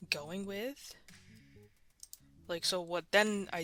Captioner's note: silence then Mouse Clicking